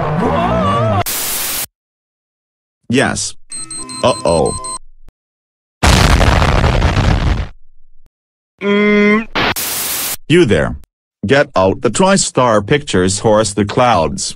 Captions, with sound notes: (scream) Yes! (Beeping) Uh-Oh! (Explosion) Mmm... You There! Get Out The TriStar Pictures Horse the Clouds!